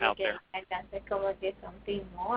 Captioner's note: speaking foreign language, 0:45:37